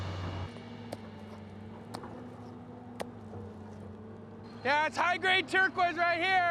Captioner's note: hammering